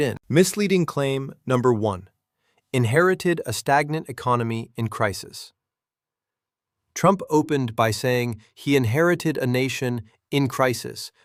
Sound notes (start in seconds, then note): 4.8 sarcastic